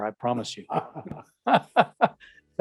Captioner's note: laughs